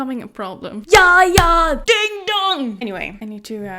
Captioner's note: claps